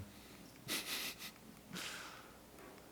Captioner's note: speaker laughs